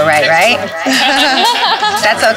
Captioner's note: laughter